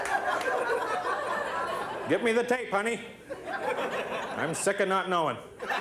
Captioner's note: laughter